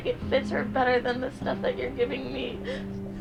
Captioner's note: sobs